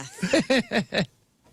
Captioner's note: laughing